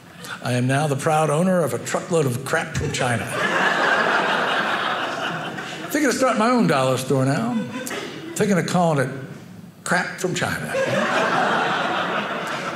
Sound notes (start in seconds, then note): 3.3 audience laughing; 10.7 audience laughing